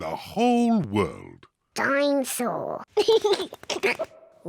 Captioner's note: giggles